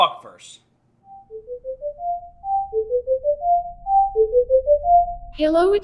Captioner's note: beeping